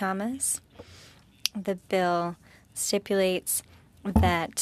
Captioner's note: speaking French